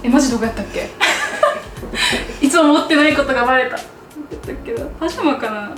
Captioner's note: laughs